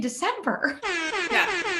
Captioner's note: airhorn playing